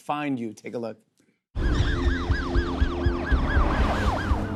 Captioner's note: siren wailing